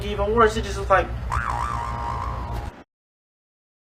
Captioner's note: bwaoaong